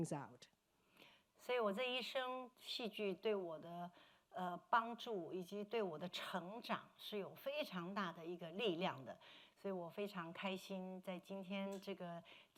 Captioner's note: speaking Mandarin